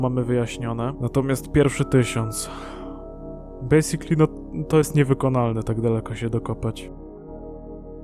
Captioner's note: sigh